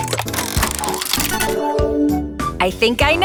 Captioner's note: mechanical whirring